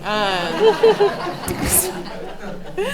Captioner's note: laughing